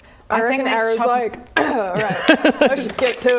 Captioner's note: clears throat